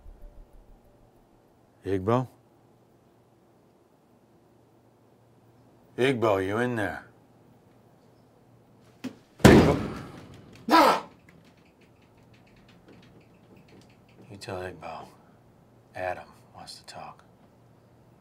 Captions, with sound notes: Igbo? Igbo, you in there? [hits door and grunts] You tell Igbo, Adam wants to talk.